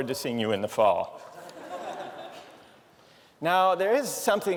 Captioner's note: laughter